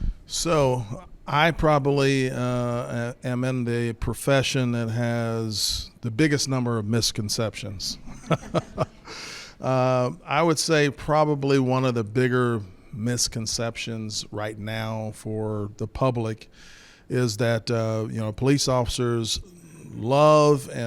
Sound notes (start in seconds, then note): 8.0 laughs